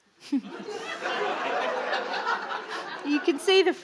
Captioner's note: audience laughing